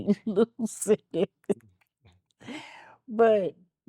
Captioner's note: laughing